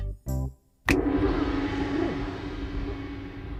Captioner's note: finger snap; gong